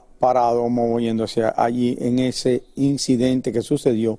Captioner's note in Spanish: hablan en ingés